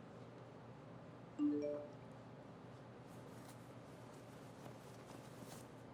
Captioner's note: cellphone chirping